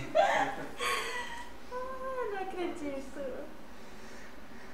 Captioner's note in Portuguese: risos